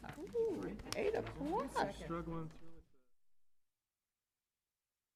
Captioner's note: indistinct chatter